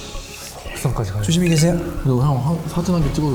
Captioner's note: call ends